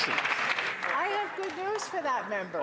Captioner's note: some Applause